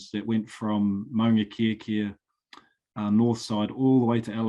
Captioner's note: speaking foreign language